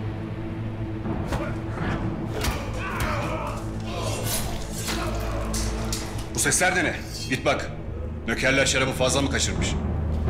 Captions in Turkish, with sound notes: (Kılıç ve darp sesleri) Bu sesler de ne? Git bak, nökerler şarabı fazla mı kaçırmış?